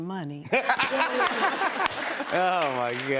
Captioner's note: laughter